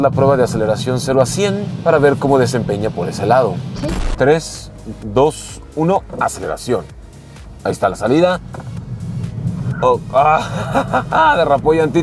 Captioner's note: laughter